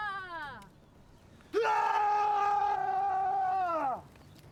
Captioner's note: all yell in foreign language; man screams